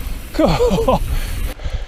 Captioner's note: laughs